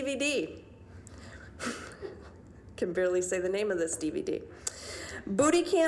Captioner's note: giggling